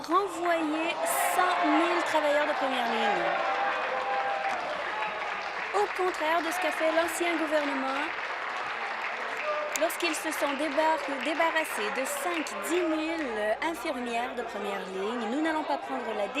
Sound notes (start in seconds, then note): 6.4 applause and cheering